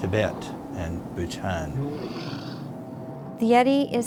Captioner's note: yeti growls